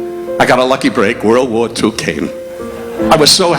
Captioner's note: audience laughing